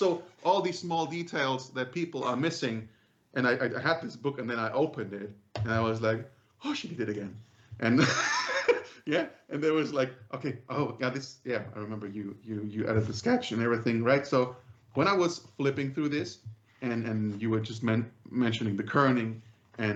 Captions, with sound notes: All these small details that people are missing. I had this book and then I opened it and I was like "Oh she did it again." [LAUGHS] There was like, "Okay. Oh my God." I remember, you edited the sketch and everything. When I was flipping through this and you were just mentioning the kerning.